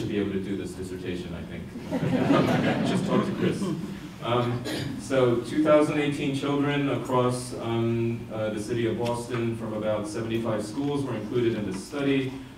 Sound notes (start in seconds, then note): 1.8 audience laughter